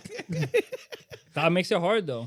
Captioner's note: all Laughing